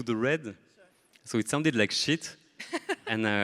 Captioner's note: laughs